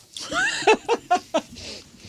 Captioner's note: laughing